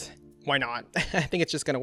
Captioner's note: laughs